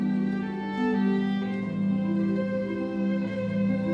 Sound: none

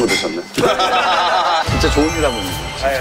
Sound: laughs it off

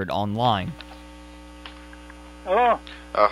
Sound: sound of a phone connecting

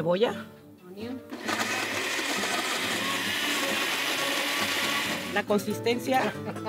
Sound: whirring; group laughing, continues in Spanish

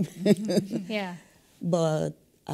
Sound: laugh

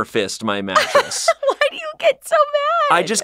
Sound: laughs

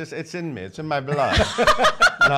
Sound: laughing

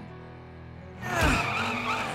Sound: grunting

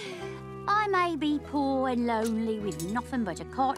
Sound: sighs

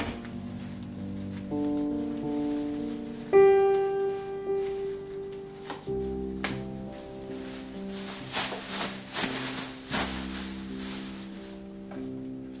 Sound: binbag rustling

